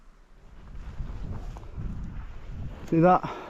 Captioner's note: wind blowing